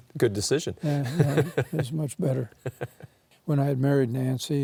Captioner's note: laughing